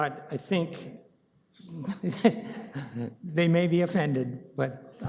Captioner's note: chuckles